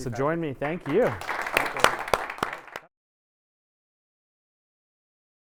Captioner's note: audience applauding